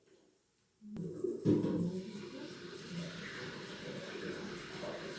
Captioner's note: water sound from upstairs